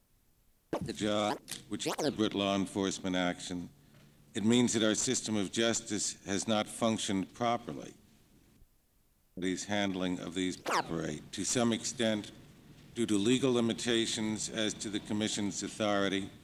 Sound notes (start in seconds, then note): 1.8 camera noise; 10.6 camera noise